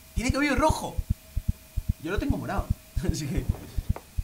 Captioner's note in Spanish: none